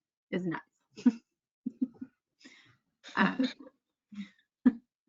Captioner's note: chuckles